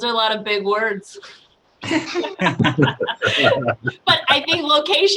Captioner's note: laughter